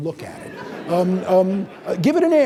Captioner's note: audience laughing